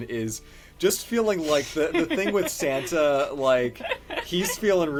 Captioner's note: laughs